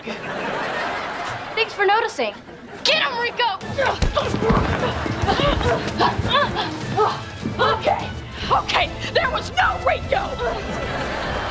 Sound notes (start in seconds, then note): 0.0 laughing; 3.8 groaning; 10.2 laughing